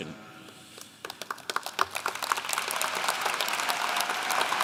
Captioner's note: audience clapping